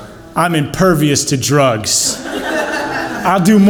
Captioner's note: audience laughs